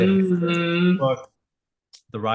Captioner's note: murmurs